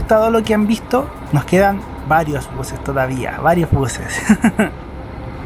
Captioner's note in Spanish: risas